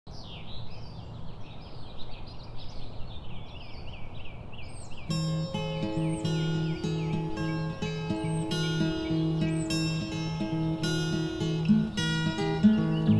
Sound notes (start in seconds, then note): 0.0 birds chirp; 5.0 gentle folk music